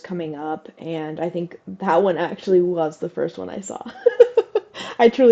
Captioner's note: laugh